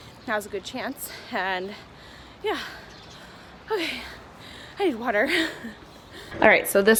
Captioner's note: laughs